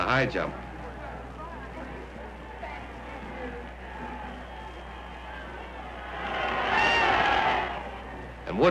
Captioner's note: crowd cheers